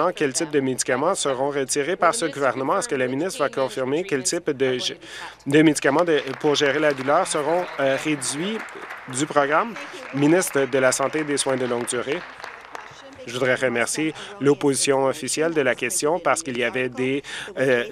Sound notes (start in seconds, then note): 8.8 applause